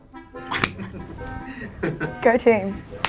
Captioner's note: laughing